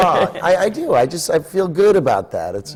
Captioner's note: laughs